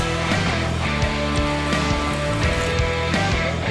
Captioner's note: water splashes